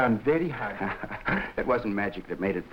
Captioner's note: Gorman laughing